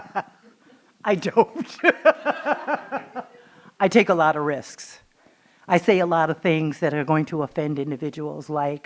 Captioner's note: laughing